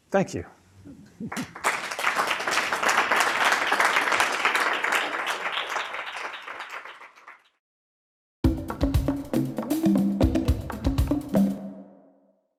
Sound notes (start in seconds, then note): 1.3 audience applauding; 10.2 rhythmic music